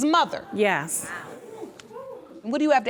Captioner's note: audience murmuring